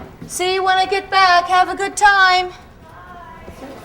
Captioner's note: none